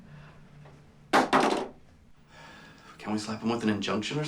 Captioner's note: thuds